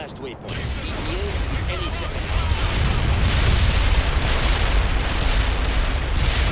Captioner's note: explosion booming